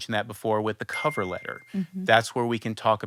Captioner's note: bell chiming